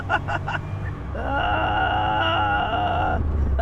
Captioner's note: more satisfied laughter